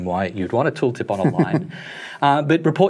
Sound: chuckles

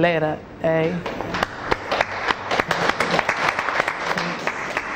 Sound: clapping

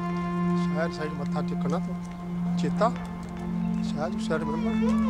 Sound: chatting in Punjabi

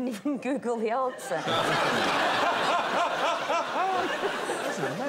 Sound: laughter

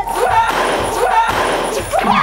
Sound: hits the ground

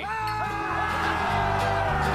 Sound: cheering

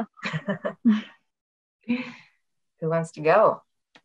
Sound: laughs

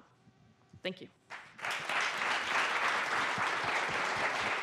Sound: applause

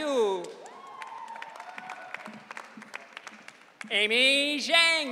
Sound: audience cheering

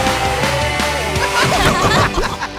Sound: laughing

